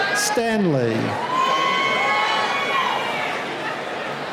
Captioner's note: cheering